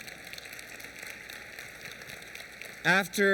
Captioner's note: applause